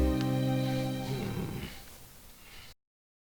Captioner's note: grumbles